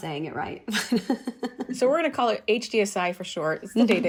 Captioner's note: laughter